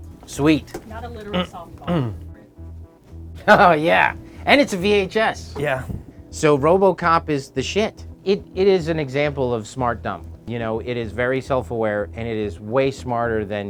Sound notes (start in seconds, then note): 3.3 laughing